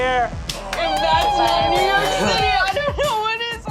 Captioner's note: applause cheering